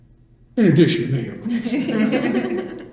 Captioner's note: all laugh